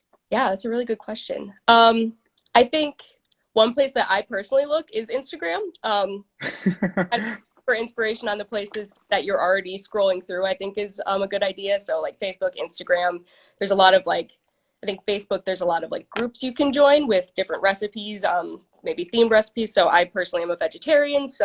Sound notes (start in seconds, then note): 6.4 laughing; 7.4 speaking faintly